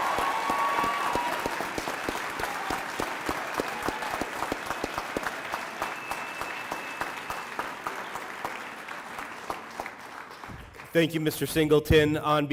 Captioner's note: cheering and applause